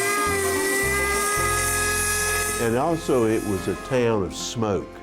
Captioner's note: steam whistling